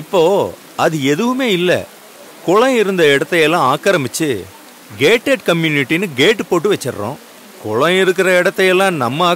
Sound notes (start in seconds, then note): 0.3 traffic sounds; 2.6 rain sounds